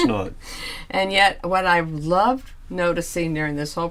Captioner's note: laughs